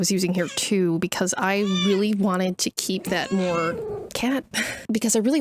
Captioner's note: cat yapping